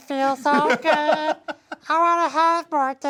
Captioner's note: laughing